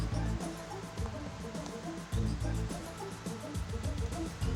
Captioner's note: footsteps tap